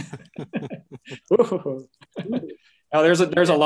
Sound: chuckling

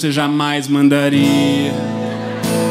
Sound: applause

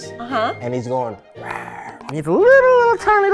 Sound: growls

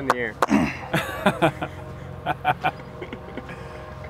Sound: laughter

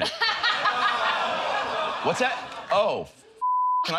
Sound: laughs

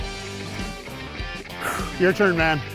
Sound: hacking

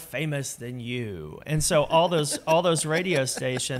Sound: laughing

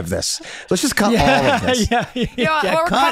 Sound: laughs

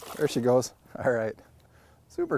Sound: fish splashing

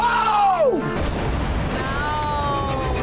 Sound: water splashing

